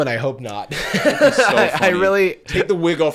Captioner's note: laughing